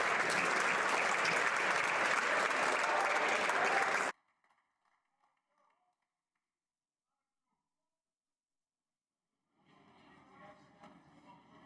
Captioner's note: applause